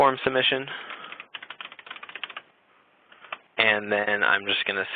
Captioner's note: typing